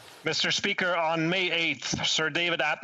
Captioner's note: speaking French